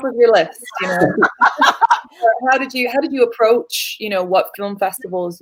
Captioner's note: laughter